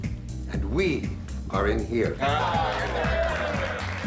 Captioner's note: applause, cheering